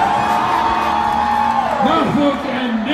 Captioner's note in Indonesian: masyarakat bersorak